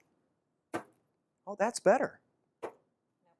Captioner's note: soft bang